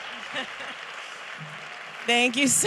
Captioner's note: audience applauding; singer laughs